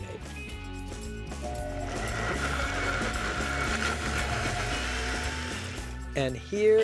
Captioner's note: blades whirring